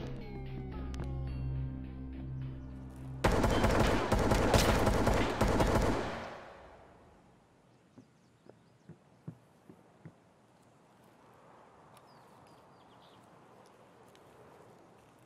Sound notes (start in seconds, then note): 3.2 gunshots